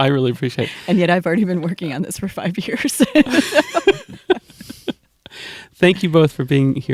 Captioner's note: laughter